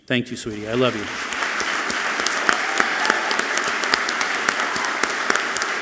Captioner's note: all clapping loudly